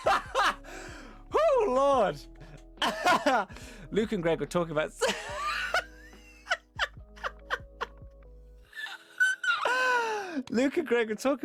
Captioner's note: laughs, Tire Squeak